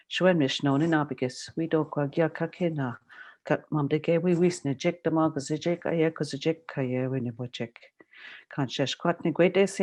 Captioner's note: speaking Algonquin